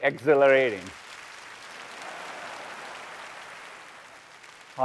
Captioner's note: applause